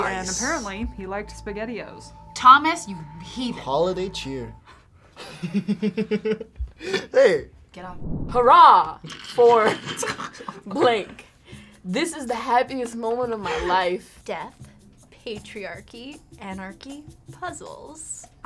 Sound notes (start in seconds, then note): 5.9 laughs; 9.6 snickers